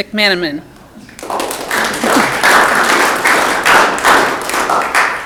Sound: audience clapping

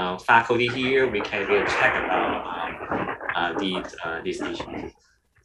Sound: static crackles

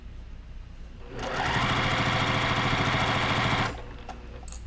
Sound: machine whirring

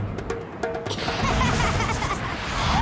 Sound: laughing

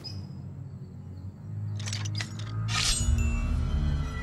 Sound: prosthetic hook hand changing noises

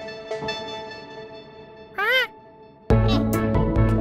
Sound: bird vocalizes; lighthearted music

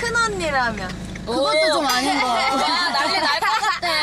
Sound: laugh

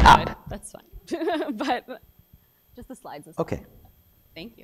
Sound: laugh

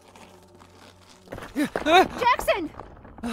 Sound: panicked gasp

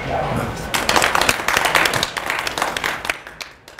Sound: applause

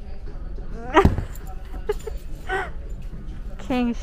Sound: laughs

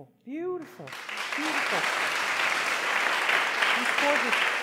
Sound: applause

